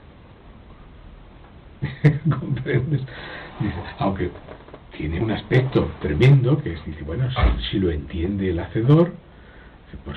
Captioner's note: laughs